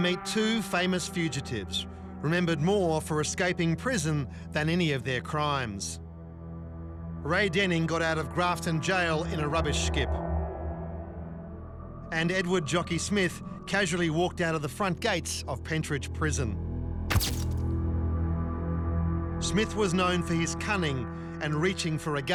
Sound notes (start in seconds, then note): 17.1 camera flashes